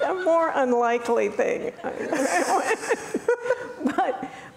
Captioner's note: laughing